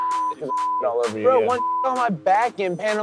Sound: beep

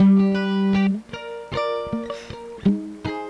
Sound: sigh

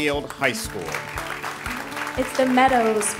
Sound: ^applause^

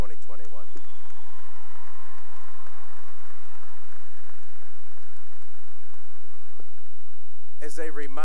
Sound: cheering and applause

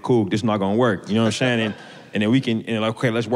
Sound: audience laughter

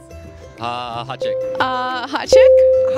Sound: ding

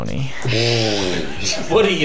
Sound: cracks up

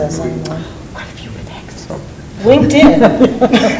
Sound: board Member whispers; loud laughter

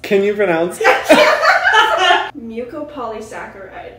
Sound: laughter

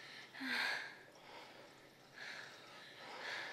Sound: moaning

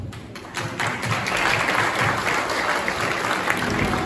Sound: applause

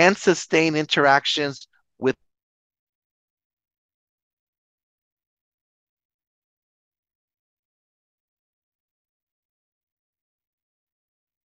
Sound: audio went silent

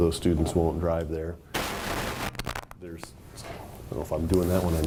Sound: static

